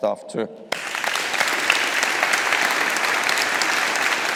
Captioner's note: all applauding